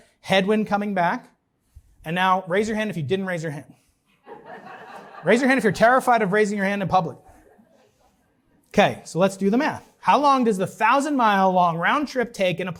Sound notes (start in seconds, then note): 4.2 laughter